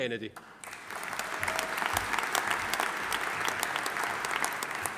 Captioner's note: audience applauding